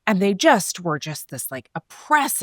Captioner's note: none